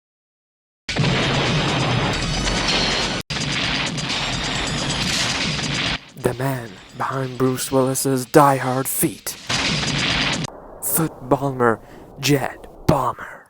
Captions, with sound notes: [explosion] [bigger explosion] [even bigger explosion] ... the man behind Bruce Willis' "Die Hard" feet. Foot balmer, Jed Palmer.